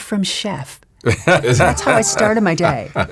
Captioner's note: laugh